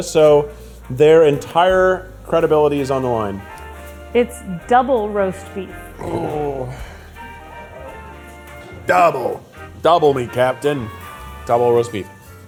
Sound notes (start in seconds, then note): 5.9 gurgling